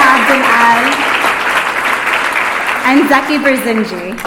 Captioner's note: applause